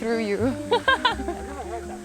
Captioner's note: both chuckling